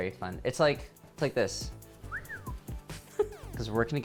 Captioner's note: whistles